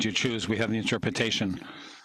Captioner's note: speaking French